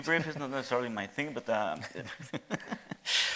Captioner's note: chuckling